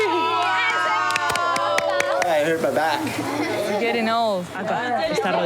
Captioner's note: speaking In Foreign Language; cheering